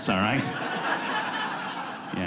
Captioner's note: audience laughs